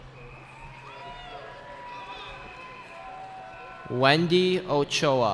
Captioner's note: cheering